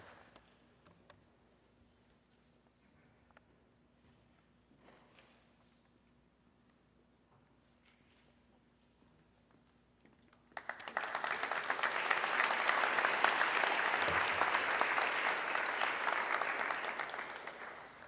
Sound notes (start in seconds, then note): 10.5 audience clapping